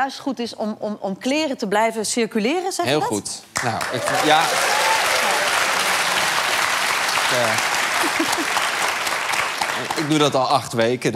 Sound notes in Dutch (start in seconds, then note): 3.5 applaus